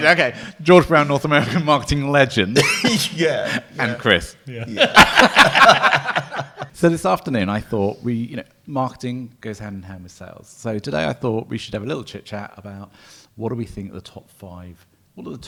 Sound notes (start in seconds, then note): 4.5 laughs